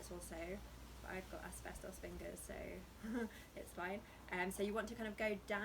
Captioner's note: laughs